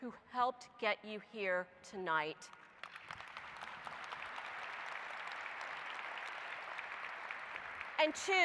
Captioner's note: applause